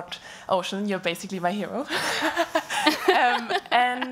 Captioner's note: laughing; laughs